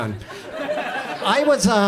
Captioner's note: audience laughs